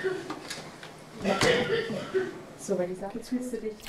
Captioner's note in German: Husten